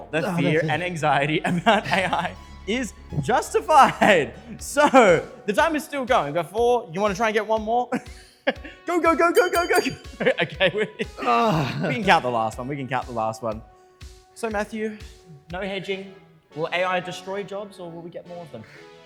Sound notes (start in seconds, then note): 7.9 laughter; 9.3 bell rings